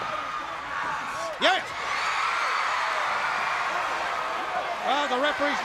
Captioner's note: crowd cheering